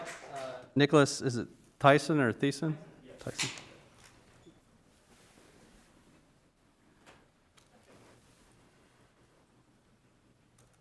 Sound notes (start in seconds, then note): 4.1 speaking faintly off mic